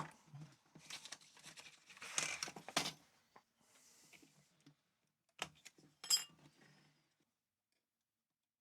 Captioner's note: silence